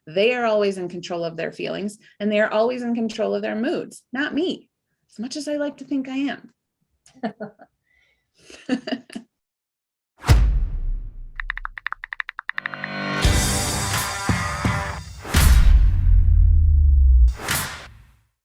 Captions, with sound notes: They are always in control of their feelings and they're always in control of their moods. Not me. As much as I like to think I am. (keyboard typing) (upbeat music)